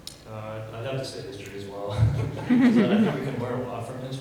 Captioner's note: laughs